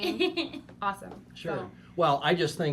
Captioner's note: laughing